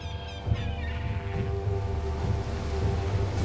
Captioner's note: seagulls squawking